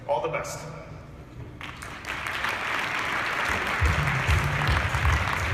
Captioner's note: applause